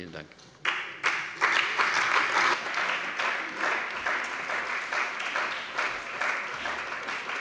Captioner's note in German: Beifall bei der CDU und dem BÜNDNIS 90/DIE GRÜNEN